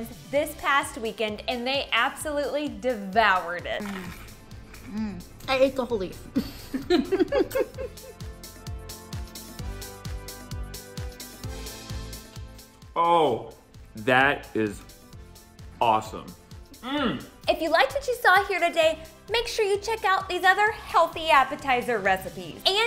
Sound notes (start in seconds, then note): 3.9 crunching; 6.4 laughing; 8.4 upbeat music